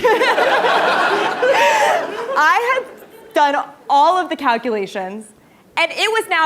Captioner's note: laugh